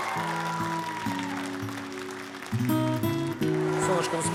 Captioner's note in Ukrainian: оплески